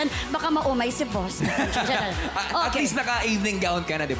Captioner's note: robi chuckles